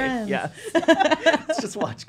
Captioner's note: laughing